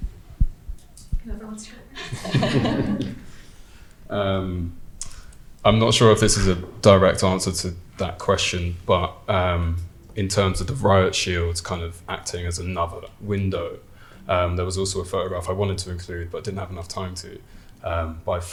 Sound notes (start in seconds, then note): 2.0 audience laughing